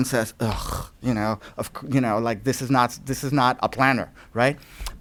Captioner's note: scoffing